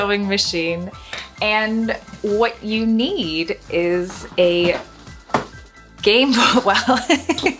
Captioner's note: chuckles